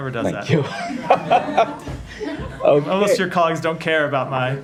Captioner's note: laughter